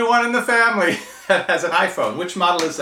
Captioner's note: laughing